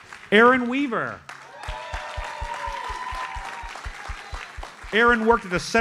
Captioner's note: audience cheers and applauds